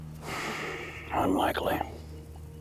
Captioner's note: sighs